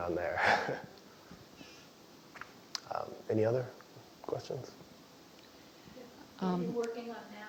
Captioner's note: laugh